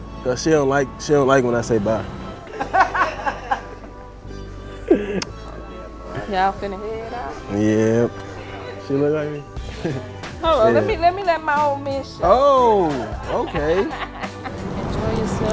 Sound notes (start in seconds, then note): 1.7 laughing; 5.1 kissing